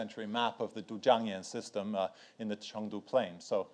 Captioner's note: speaks in foreign language